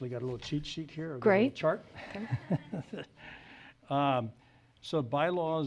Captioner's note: laughs